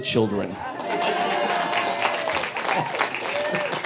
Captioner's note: audience applauding